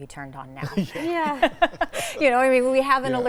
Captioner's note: all chuckle